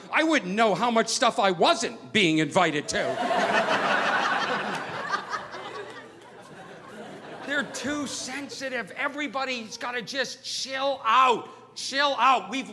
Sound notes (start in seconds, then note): 2.8 audience laughing